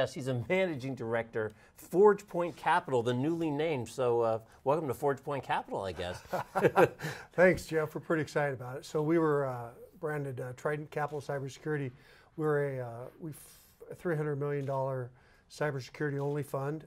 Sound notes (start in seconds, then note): 6.0 laughs